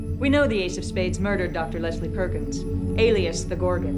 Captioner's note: none